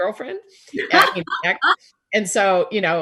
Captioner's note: Busy laughing